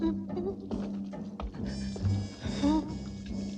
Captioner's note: whimpering